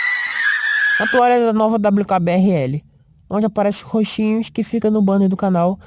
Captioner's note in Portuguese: Gritos :0